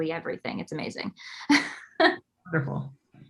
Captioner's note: laughs